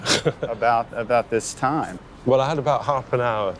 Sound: chuckles

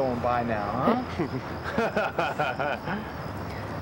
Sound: laughing

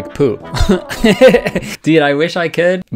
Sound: laughs

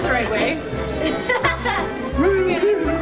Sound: laughing

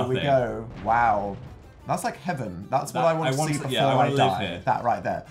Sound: explosion in the game

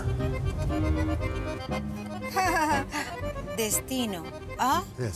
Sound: chuckles

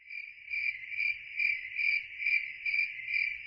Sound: crickets chirping

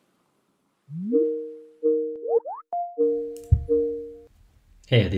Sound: messenger ringing sound

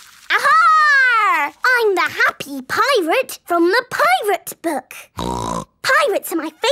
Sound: snorting

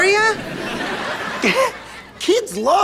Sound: chuckles nervously

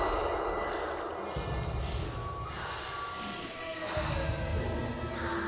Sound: voices chanting in foreign language

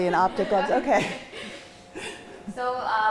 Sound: chuckles

